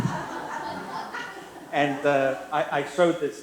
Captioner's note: laughter